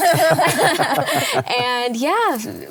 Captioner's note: laugh